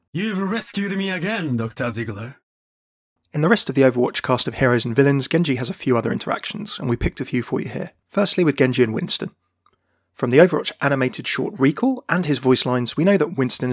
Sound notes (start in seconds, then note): 3.4 voiceover